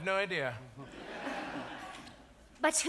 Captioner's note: audience laughs